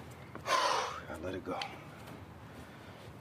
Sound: exhales

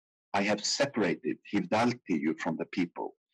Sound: speaking in foreign language

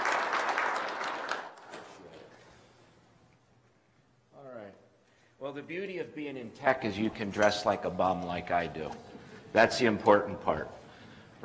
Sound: clapping

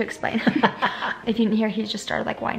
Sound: laughing

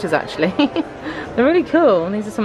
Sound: laughing

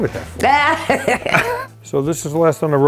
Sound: laughing

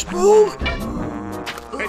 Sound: the sound of rolling pin lightly clashing; fish and monsters grunting and heaving

